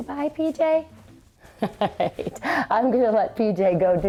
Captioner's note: laughs